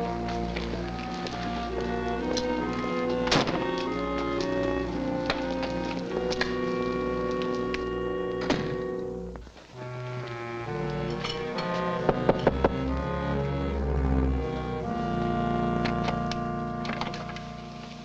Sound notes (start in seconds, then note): 3.5 car door slams; 8.4 door thuds shut; 12.1 knocks on door